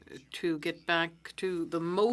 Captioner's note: speaking French